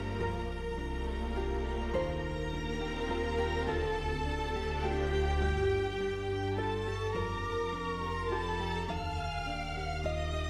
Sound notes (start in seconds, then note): 0.2 dramatic music plays; 7.6 police sirens